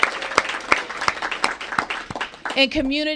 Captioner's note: applause